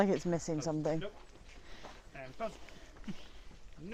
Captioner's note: laughs